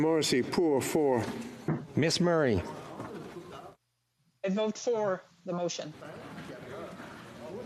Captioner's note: speaking FRENCH